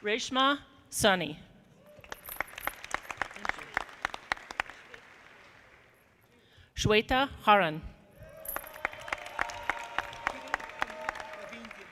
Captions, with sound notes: Reshma Sunny. (audience clapping) Shweta Haran. (audience applauding)